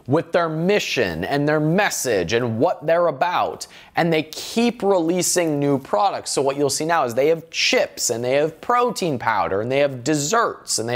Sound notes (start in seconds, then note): none